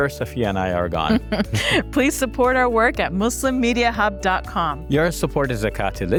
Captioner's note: laughs